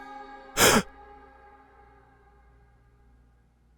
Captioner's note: Arawn gasping